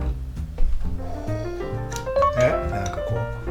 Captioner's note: breath of relief